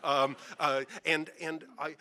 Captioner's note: audience laughing